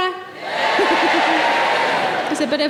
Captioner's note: audience cheering